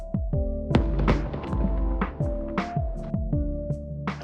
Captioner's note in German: feuerwerk